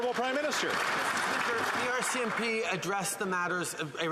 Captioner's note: applause